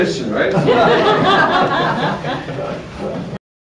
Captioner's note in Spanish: risas